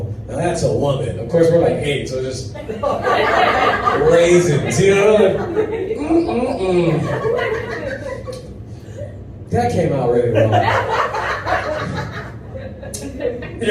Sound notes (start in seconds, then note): 10.3 laughter